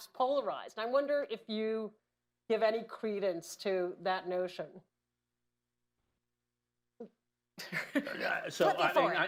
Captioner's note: laughs